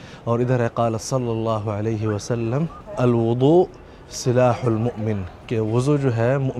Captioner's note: Arabic